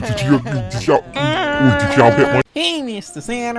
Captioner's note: Scratch Cat screams